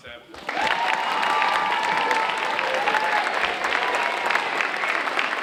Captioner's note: audience cheering and applauding